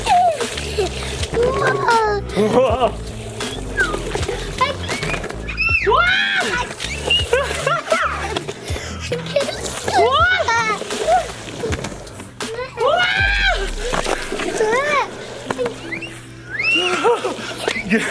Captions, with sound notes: - Whoa. - Whoa. (squeals) - I can't stop. - Whoa. - Whoa. (squeals)